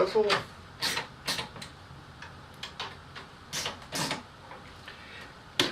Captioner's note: ratcheting noises